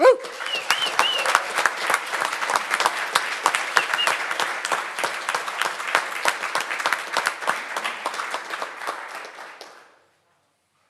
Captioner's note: audience Applauding